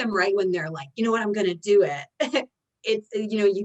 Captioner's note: chuckles